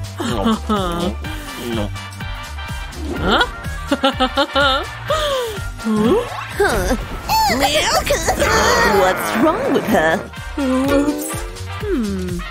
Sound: grumbles

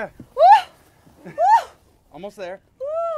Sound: sighs heavily

